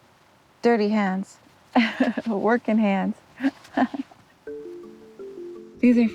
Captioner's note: laughs